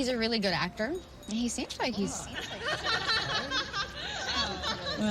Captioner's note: laughing